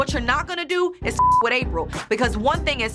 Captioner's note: beep